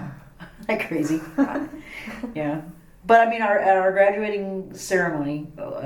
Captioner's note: laughs